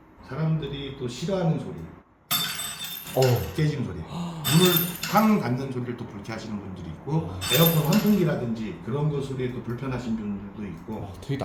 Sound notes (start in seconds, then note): 2.3 glass shattering